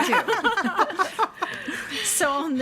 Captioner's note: board members laughing